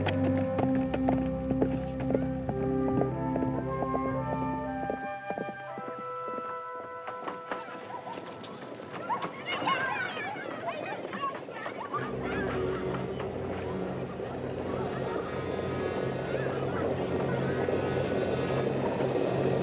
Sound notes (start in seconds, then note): 12.0 suspenseful orchestral music; 12.1 distant horses approach